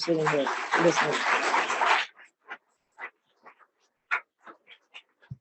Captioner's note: audience applauding